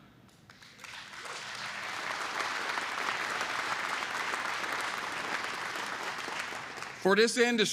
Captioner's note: applause